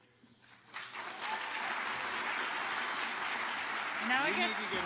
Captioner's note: audience applauding